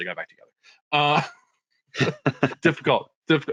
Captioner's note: all laughing